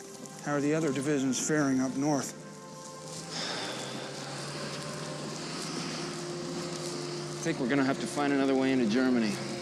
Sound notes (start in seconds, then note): 3.0 nixon sighing